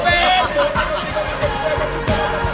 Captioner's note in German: Lachen